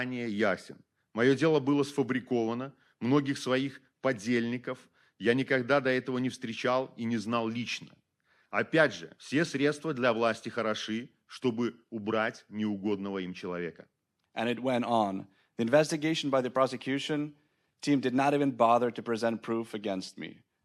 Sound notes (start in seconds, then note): 0.0 speaking Belarusian